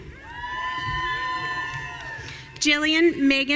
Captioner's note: audience cheering